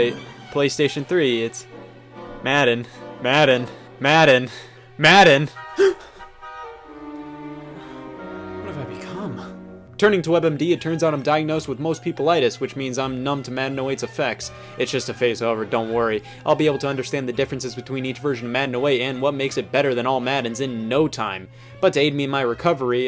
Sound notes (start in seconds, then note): 5.8 gasp